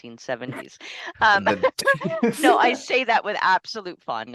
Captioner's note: laugther